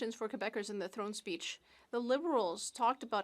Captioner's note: speaking French